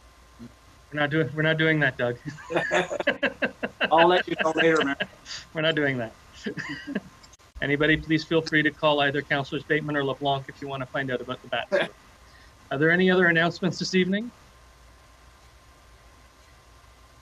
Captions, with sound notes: - We're not doing that, Doug. (Council laughs) - I'll let you call later, man. - We're not doing that. Anybody please feel free to call either Councillors Bateman or LeBlanc if you wanna find out about the bats. Are there any other announcements this evening?